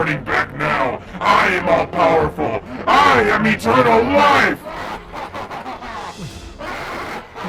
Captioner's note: laughs